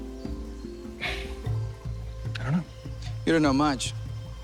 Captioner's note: sighs